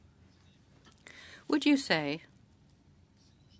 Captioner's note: speaking French